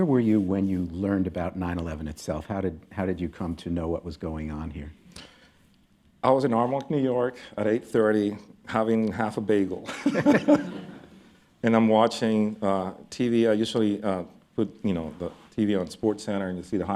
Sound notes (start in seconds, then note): 9.8 laughter